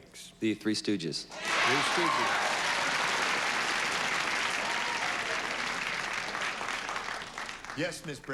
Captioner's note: cheers and applause